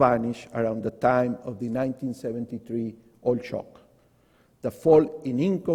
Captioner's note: voice is muffled